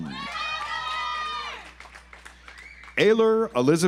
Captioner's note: audience applauds